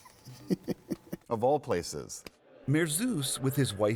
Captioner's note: laughter